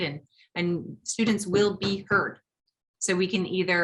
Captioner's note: bangs desk three times